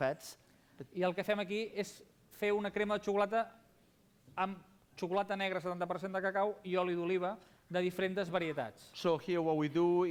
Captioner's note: non-english speech